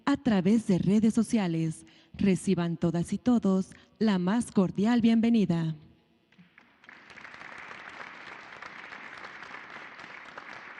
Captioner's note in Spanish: aplausos